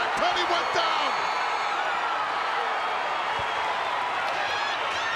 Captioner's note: crowd cheering